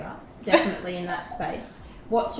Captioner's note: laughing